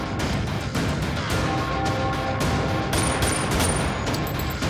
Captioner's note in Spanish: Disparos